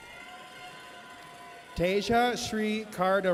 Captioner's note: audience cheers